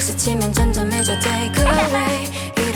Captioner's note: boing